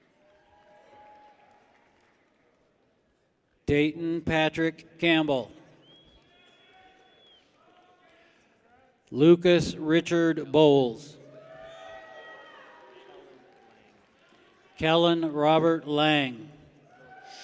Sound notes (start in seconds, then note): 0.0 people cheer; 6.2 people cheer; 11.2 people cheer